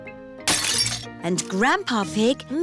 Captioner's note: shattering